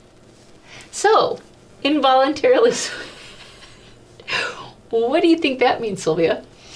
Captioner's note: laughs